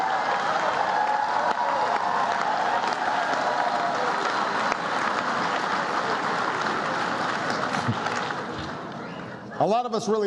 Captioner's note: cheers and applause